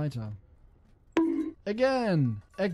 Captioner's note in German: bonk